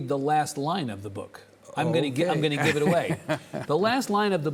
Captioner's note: chuckles